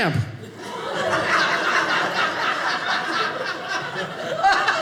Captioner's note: audience laughing